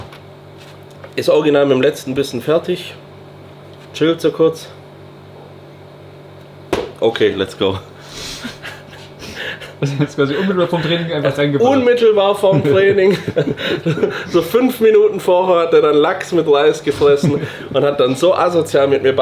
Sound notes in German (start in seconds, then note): 6.2 gelächter